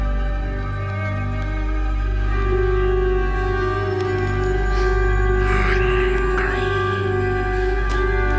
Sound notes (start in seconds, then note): 5.4 creepy voice